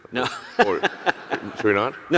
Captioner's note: laughing